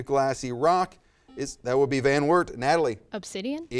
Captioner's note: buzzer